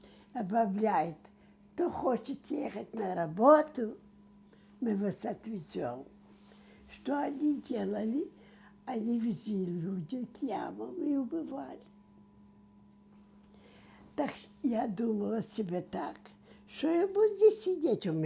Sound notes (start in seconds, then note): none